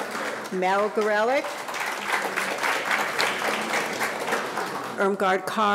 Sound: audience applauding

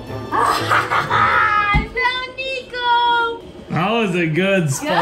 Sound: laughs

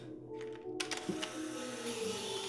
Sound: camera shutter

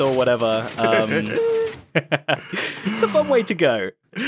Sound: laughing

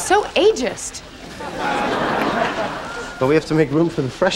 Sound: audience laughing

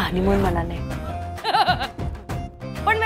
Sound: laughs

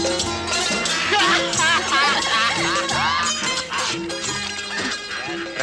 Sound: laughs

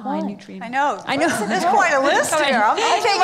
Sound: laughs

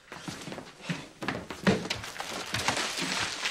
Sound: Griffen panting

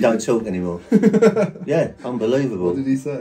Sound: laughing

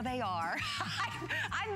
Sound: laughter

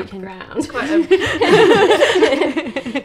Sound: laughs

